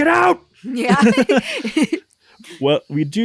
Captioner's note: laughs